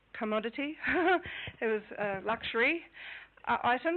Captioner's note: laughing